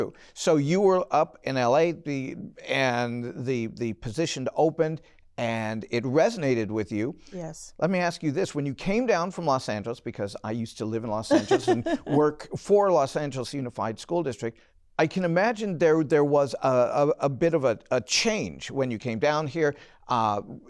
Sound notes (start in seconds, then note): 11.3 laughter